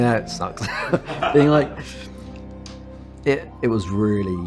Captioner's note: laughs